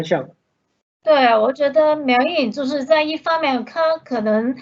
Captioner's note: Mandarin